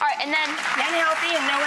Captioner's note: audience clapping